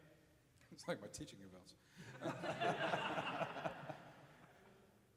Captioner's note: chuckles